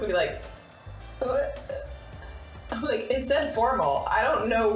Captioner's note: mimicking stuttering